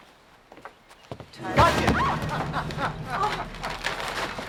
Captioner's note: laughs